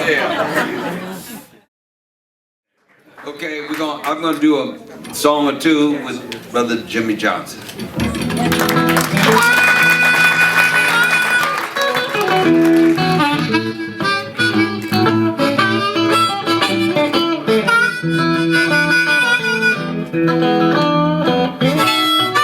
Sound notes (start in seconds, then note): 0.0 audience laughing; 8.1 audience applauding